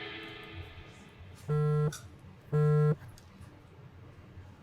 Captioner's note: upbeat music ends; phone buzzing